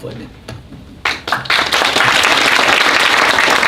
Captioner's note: applause